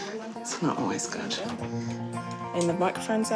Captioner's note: laughs